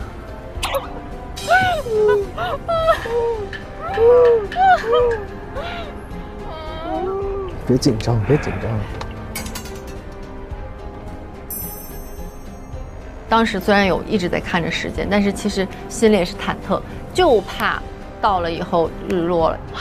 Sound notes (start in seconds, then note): 2.5 hearing two parts of wailing